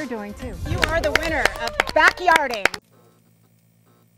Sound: clapping

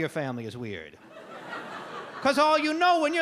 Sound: audience laugh

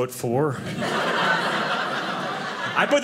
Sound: audience laughing

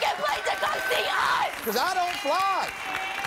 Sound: applause

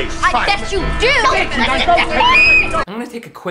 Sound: Zenon screaming

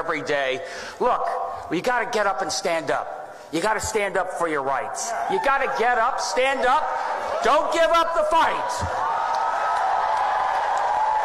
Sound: applause

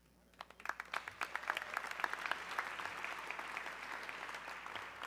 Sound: audience clapping

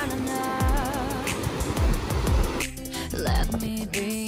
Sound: waves crashing

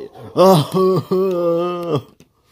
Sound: laughing

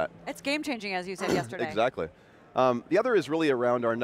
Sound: coughs

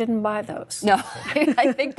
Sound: laughter

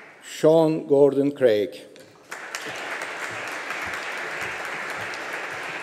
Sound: audience applauding

